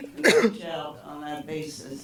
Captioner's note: cough drowns out voice